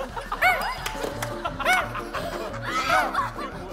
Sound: whine of a squid

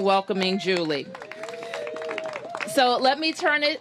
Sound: applause

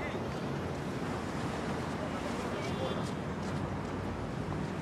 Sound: sea waves and wind blows

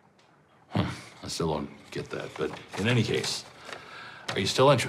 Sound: scoffs

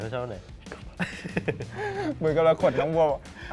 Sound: laughs

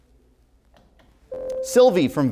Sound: buzzer

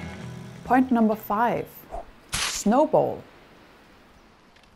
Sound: sound of snowball throw and hit

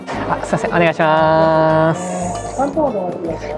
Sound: speaks japanese

